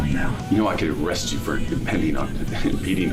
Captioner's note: laugh